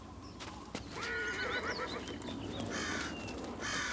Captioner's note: wind whistles; horse neighs; birds squawk